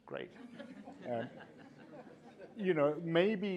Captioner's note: laughter